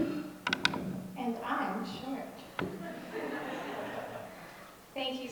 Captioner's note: audience laughs